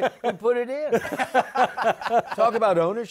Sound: laughter

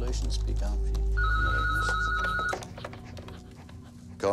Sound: phone ringing

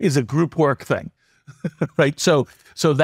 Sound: laugh

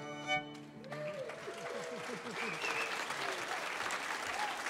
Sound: audience cheering

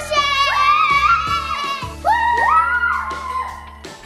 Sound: cheering

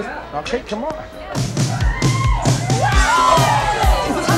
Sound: upbeat music starts playing; cheering

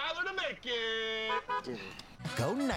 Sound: car honks twice

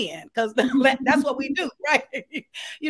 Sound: laughing

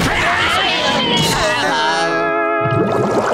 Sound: groaning

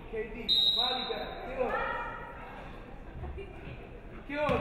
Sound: referee whistles

